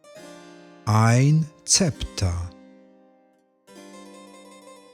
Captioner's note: german